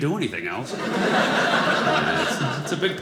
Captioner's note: audience laughing